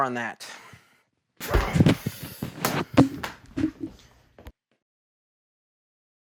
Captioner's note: throws down microphone in frustration and grunts